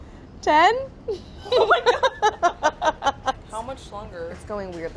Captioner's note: laughs